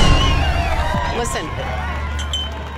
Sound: crowd cheering

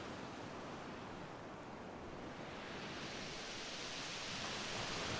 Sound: waves rolling, crashing

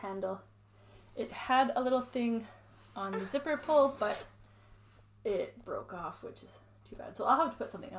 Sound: zips

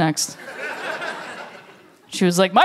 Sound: laughter

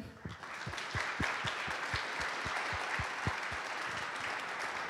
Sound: applause

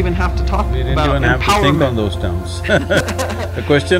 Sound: both laugh

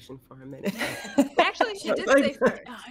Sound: all laughing

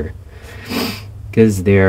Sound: sniff

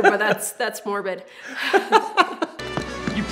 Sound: laughter

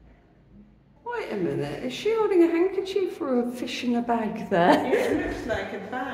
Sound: laughing

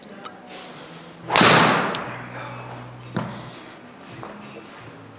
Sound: ball thuds

